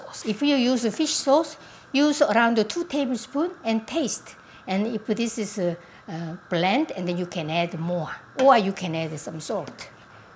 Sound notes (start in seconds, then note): none